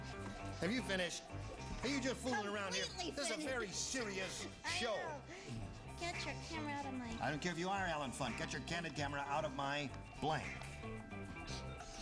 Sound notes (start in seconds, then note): none